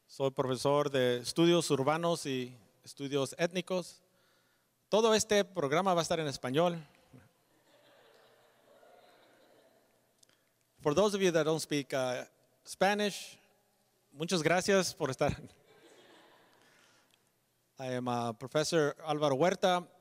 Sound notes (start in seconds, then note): 2.1 speaking Spanish; 15.3 speaks Spanish